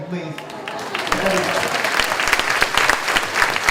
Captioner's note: clapping